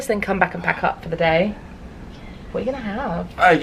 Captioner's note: none